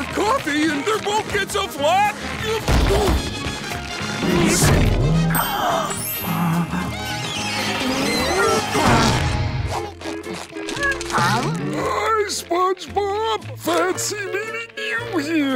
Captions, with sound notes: and their boat gets a flat. [groaning] [gasping] Um. Hi, SpongeBob. Fancy meeting you here.